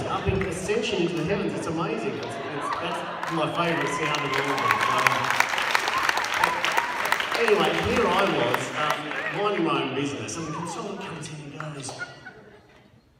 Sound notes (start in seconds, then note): 5.8 applause